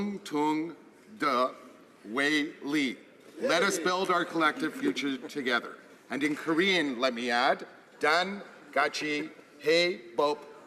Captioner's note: speaking alternate language